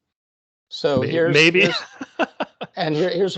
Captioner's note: laughing